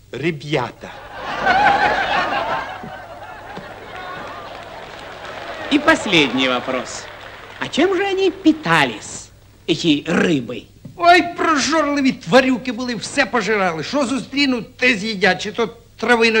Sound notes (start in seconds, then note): 1.4 applause